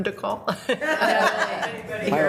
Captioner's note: members laughs